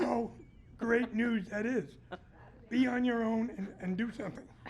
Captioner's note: laughter